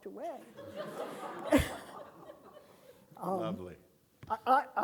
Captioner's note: audience laughing